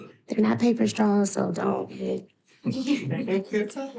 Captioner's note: laughing